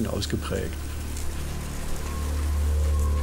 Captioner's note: fluttering